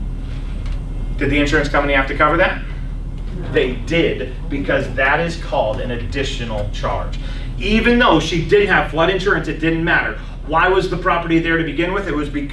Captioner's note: laughs